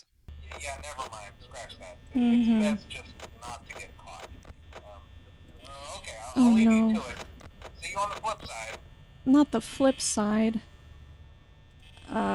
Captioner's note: groans